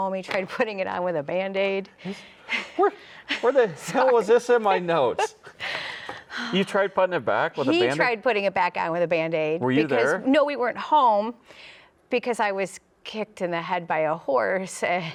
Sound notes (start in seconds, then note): 5.2 chuckles